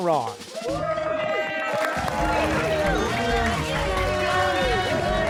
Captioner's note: cheers and applause